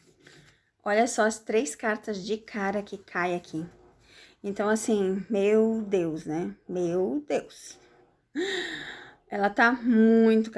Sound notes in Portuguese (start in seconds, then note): 8.4 suspirando